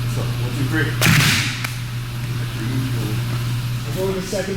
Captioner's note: everyone claps